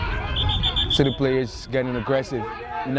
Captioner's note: whistle